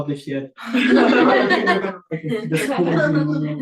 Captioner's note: chuckling